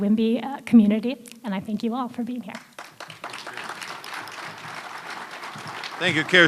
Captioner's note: applause